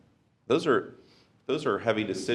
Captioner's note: none